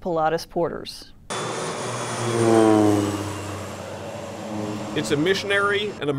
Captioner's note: airplane roaring